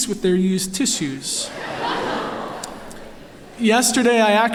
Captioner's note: laughter